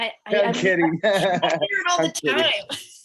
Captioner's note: laughs